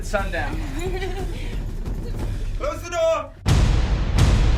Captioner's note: women laugh